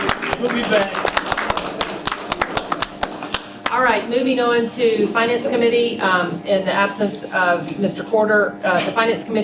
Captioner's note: applause